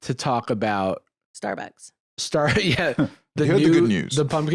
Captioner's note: laughs